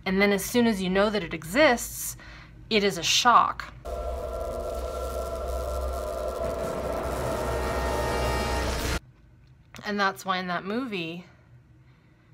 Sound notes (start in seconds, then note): 3.8 electricity zapping; 8.6 dramatic music